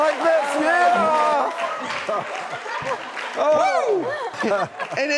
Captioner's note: audience laughs